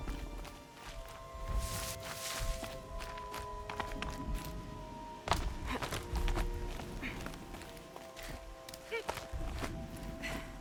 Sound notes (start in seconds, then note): none